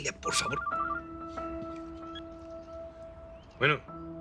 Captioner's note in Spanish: Suena el celular